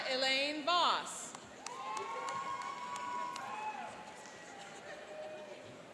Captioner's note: cheering and applauding